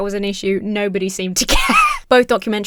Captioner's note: wheezes